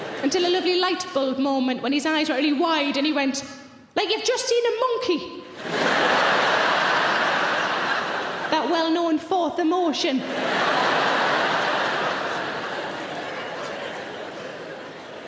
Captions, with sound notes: until a lovely light bulb moment when his eyes were really wide and he went "like you've just seen a monkey". (audience laughing) That well known fourth emotion. (audience laughing)